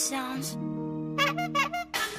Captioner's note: horn Honks